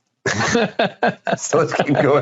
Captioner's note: laughing